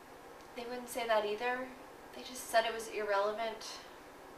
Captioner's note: none